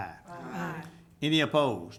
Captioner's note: group chanting